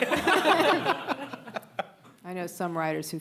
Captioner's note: audience laughing